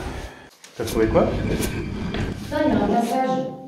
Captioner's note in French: bruit de lourde pierre qui frotte